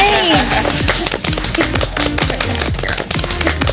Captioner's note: applause